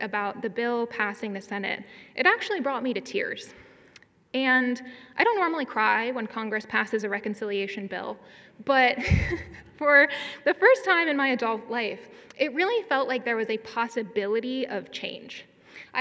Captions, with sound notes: about the bill passing the Senate, it actually brought me to tears. And I don't normally cry when Congress passes a reconciliation bill, but (chuckles) for the first time in my adult life, it really felt like there was a possibility of change.